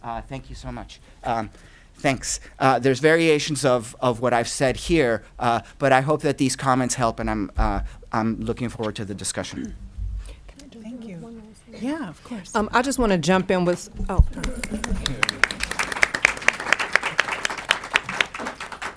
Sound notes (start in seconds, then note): 11.0 voice muffled; 14.4 applauding